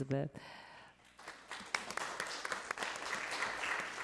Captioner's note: applause